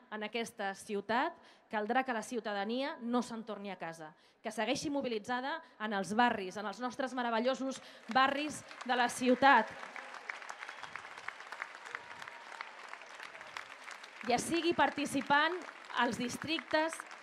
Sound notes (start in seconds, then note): 10.1 applause